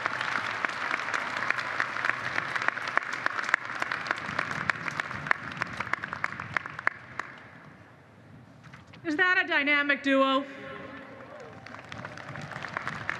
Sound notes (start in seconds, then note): 6.1 applause; 11.1 applause